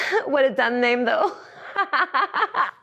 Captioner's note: laughs